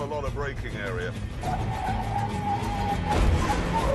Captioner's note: tyres screeching